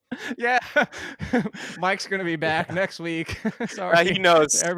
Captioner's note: everyone laughing; laughs